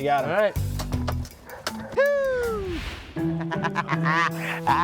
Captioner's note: laughs